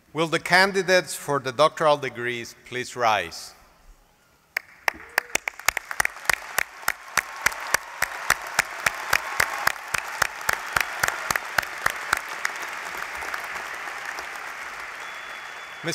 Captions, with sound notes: Will the candidates for the doctoral degrees please rise. [APPLAUSE]